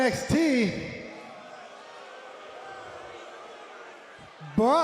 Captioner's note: crowd chatter